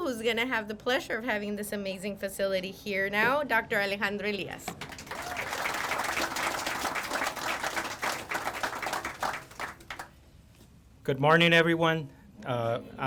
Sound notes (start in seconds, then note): 4.7 crowd applauding; 4.8 crowd cheering